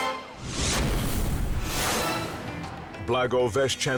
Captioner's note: squashing sound